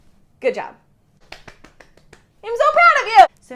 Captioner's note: applauding